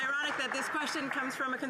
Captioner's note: applause